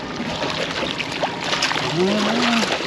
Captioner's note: fish splashing